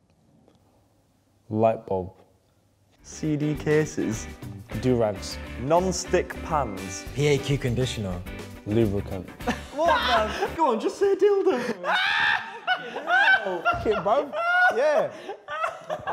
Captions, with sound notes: Light bulb. - CD cases. - Do-rags. - Nonstick pans. - PAQ conditioner. - Lubricant. (laughing) - What the, go on, just say dildo. (laughing) - K bone, yeah.